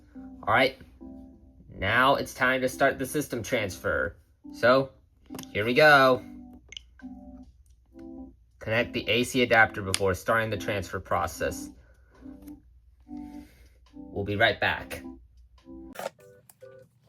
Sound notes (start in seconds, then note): 6.7 click and popup system sounds; 15.9 sped up setup music playing